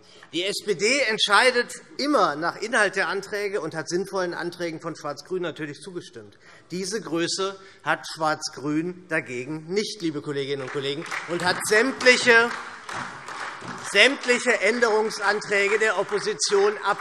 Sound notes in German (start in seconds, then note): 10.4 Beifall